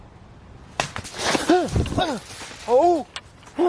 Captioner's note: branches cracking